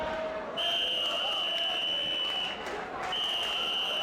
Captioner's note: whistle blowing